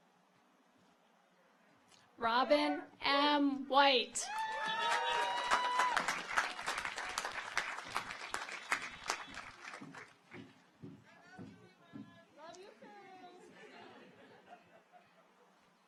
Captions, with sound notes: Robin M. White. (audience applauds) (car horns honking)